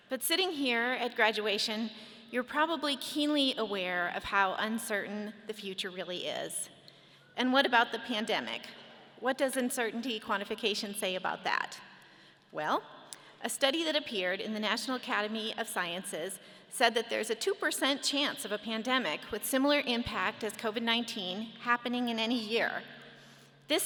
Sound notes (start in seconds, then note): none